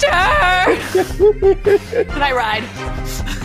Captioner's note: laughing